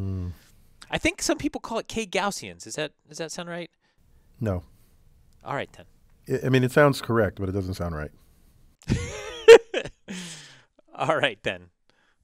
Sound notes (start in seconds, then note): 8.8 laugh